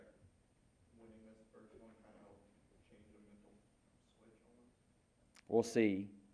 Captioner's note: crowd speaking quietly